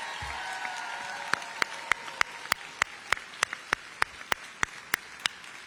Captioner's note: applause